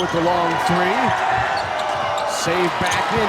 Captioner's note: audience cheers